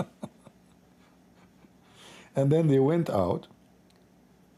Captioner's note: Ketawa